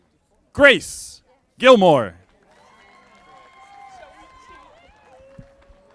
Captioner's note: audience applauding